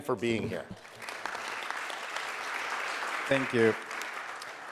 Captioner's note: audience applauding